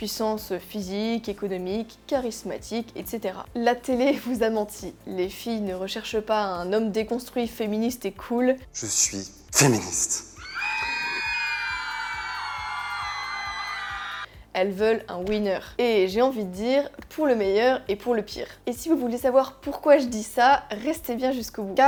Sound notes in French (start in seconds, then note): 10.3 Cris de fansgirls